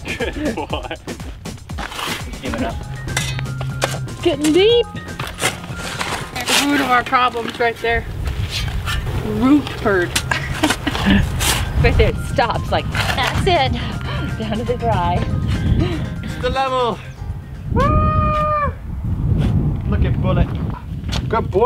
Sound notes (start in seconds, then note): 10.2 chuckles